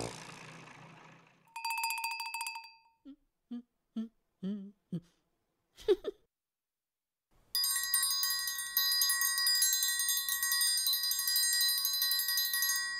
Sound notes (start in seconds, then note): 1.5 bell ringing; 4.4 humming; 7.6 ringing